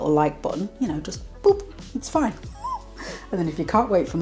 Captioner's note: laugh